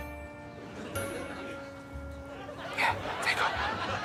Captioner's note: audience laughing; upbeat music